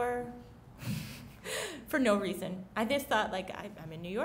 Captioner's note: chuckles